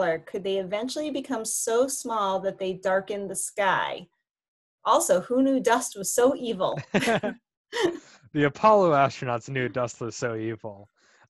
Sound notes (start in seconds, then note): 6.7 laughing